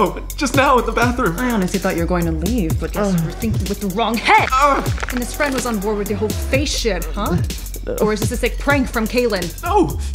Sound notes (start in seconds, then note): 4.2 squeals; 4.2 bone crunching